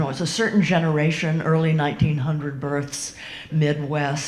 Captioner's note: none